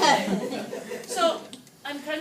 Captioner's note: laughing